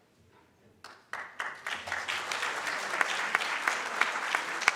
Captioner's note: audience claps